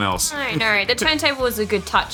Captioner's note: laughter